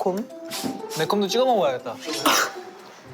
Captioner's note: sniff; cough